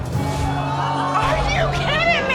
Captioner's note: audience exclaiming